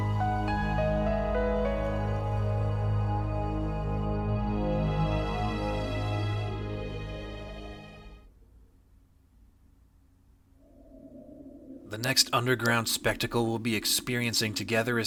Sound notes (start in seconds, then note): 4.5 music fades; 9.8 low, quiet wind